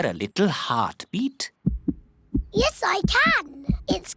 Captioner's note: heart thumps